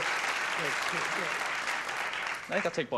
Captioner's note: clapping